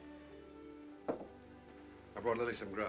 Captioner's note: soft music; cup sets down